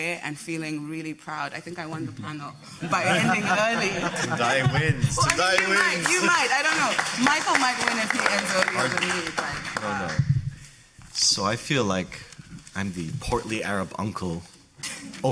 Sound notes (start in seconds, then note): 2.8 audience laughing; 5.1 audience applauding